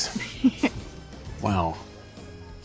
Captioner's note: giggles